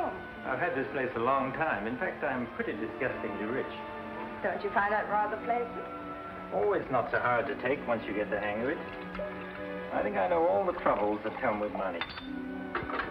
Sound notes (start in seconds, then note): none